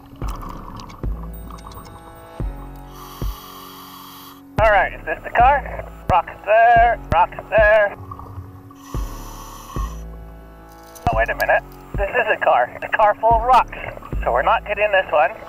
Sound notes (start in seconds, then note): 0.0 water bubbles; 2.0 lively music; 8.7 air hisses